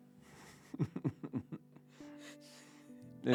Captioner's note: laughing